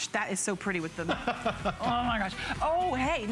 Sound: laughter

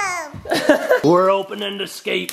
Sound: laughing

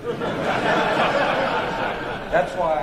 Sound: laughter

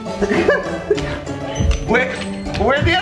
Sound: laughs

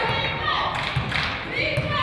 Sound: claps

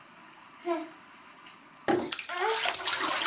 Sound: baby hums; baby grunts; small bang

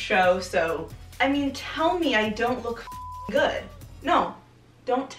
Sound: beep

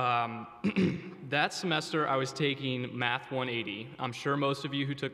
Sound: clears throat

